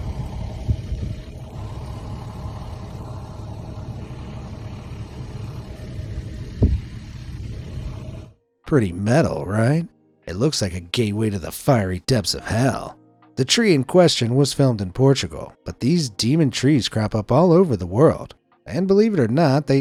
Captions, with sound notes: (car engine idling) (fire crackling) Pretty metal, right? It looks like a gateway to the fiery depths of hell. The tree in question was filmed in Portugal, but these demon trees crop up all over the world, and believe it or not,